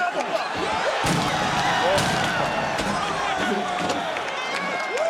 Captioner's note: Femi claps; box clatters